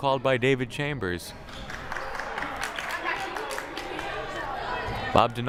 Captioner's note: hands clapping